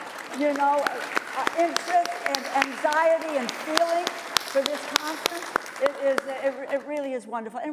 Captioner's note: applause